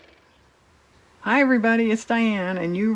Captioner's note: car motor